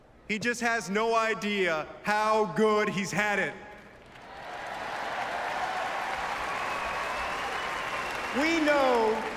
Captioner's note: applause